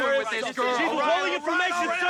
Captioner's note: men all shouting